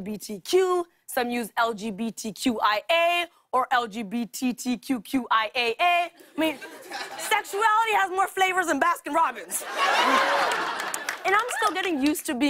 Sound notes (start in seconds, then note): 9.5 laughter